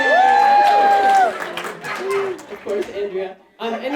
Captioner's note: cheering and applauding